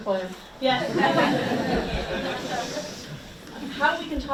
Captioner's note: audience laughs